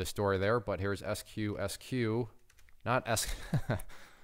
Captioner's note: laughing